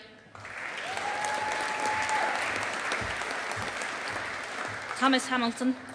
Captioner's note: audience applauding